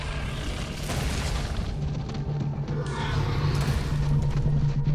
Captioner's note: dinosaur growling